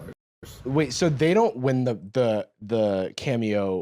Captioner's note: none